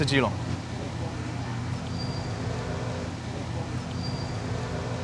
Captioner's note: traffic buzzing